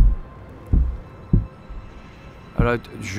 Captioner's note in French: les coups continuent